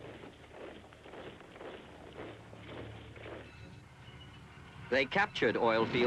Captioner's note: boots thudding rhythmically